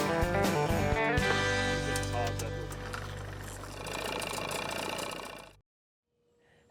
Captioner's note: upbeat music fading; engine whirring